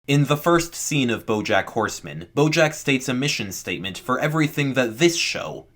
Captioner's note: voiceover